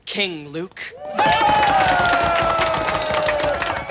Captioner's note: cheering